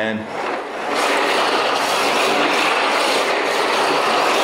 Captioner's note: car scrapes